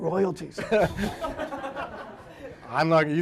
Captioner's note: audience laughing